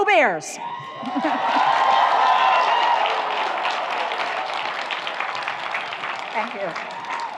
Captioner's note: audience cheers; audience applauds